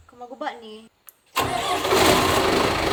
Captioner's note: generator sound